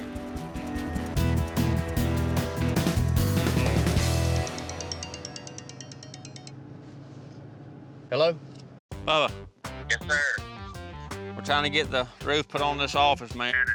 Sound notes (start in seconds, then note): 4.6 phone ringing